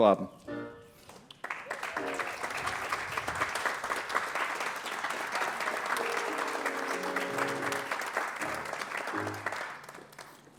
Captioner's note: applause